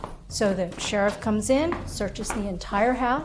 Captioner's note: none